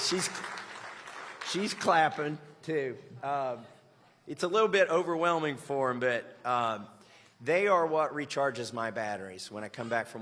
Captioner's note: applause